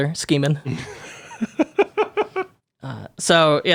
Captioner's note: laughing